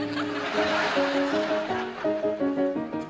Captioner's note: laughter